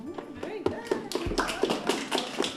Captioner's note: applause